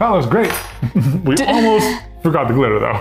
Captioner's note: both laugh